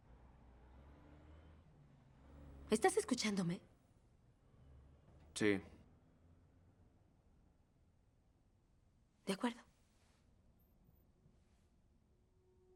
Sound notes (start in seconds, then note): none